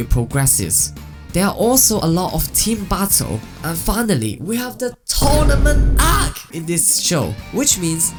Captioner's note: excited